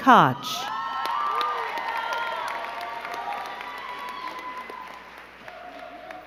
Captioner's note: crowd cheering and clapping